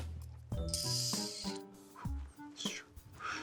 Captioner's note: making a whistling noise; making a panting noise